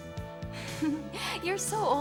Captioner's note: giggles